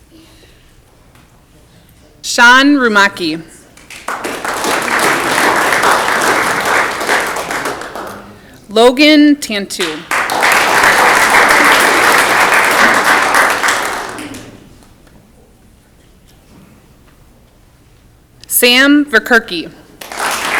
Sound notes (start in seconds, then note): 3.7 audience clapping; 9.7 audience clapping